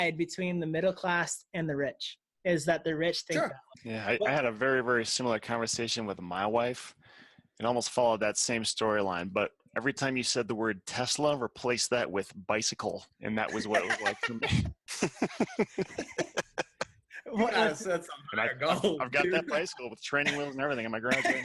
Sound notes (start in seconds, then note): 14.9 laughing; 21.1 laughing